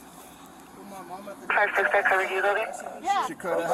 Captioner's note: radio chatter